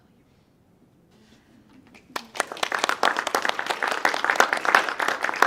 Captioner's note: audience clapping